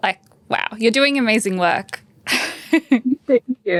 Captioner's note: laughs